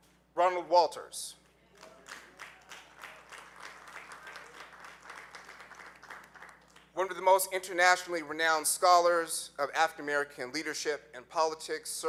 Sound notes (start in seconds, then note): 1.7 audience clapping